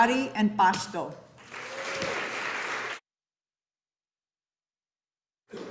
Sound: audience applauding

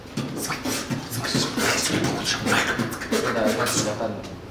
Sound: free-riding beat box

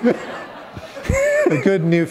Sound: laughter

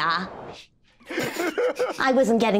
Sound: group laughing

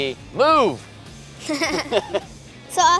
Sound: laughter

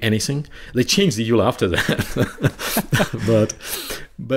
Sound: chuckling

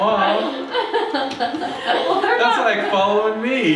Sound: laughs

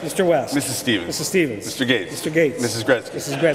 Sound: none

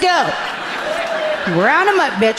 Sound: audience laughing amusingly

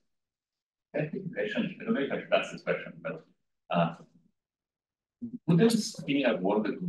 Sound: audio distorting

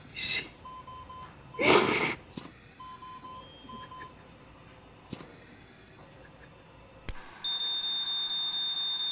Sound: heart Monitor alarm

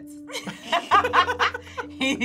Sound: both laugh

